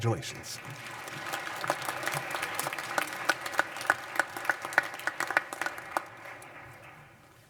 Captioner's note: applause